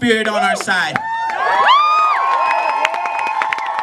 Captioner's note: cheering, clapping